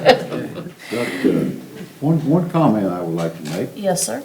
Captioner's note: laughing